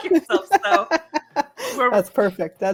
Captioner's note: laughs